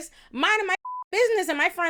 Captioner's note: beep